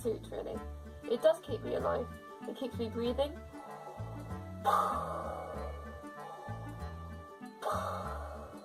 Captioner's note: breathes loudly